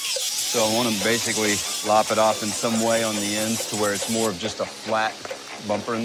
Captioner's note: none